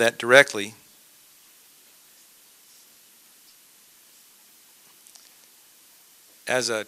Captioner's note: silence